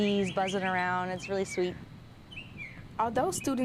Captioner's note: nat sound:birds